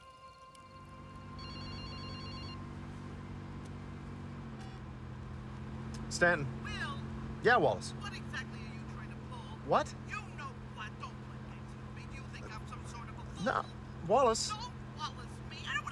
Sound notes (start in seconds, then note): 1.3 telephone rings